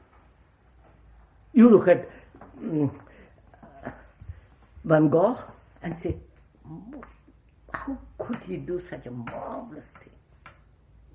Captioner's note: laughs